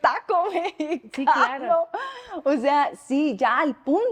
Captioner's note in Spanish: Risas